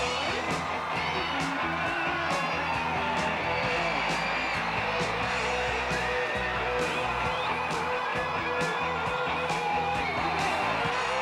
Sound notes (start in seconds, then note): 0.1 upbeat rock music continues; 2.0 crowd cheering